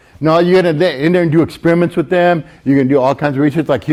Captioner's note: none